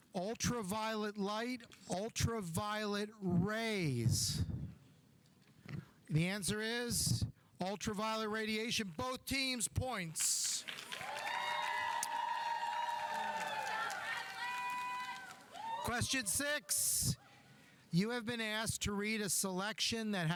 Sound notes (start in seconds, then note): 10.2 audience applauding; 10.6 audience cheering; 14.5 student yelling